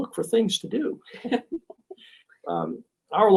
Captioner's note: laughing